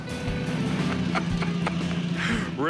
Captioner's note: Rick laughs